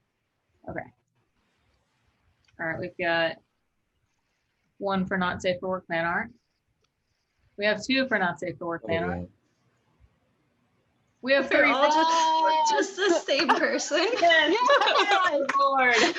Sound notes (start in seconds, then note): 13.0 laugher